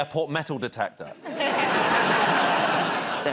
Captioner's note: laughter